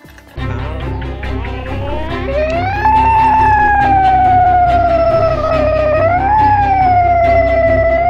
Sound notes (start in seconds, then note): 0.3 dramatic music; 0.4 squealing